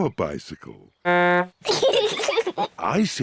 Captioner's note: toots horn; both giggle